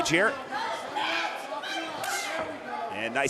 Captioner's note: audience cheering